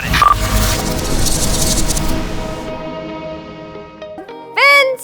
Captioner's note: whoosh